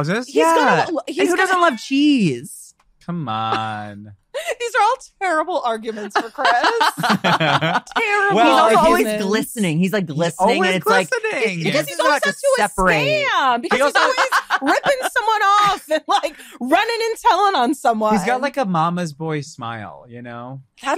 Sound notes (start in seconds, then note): 13.5 laughs